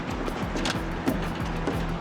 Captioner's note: rustling, creaking